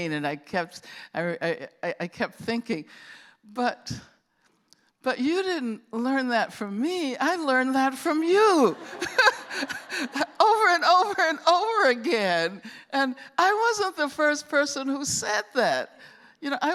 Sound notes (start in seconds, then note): 8.6 laughter